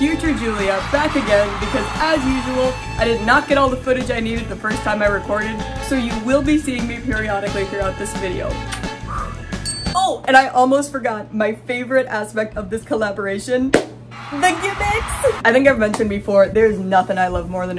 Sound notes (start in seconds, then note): 0.0 snazzy music; 0.0 crowd cheering; 9.1 sparkle sound effect